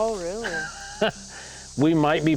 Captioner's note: laughs